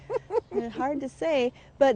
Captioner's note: laughs